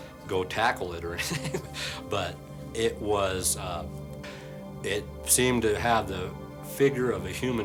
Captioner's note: laughs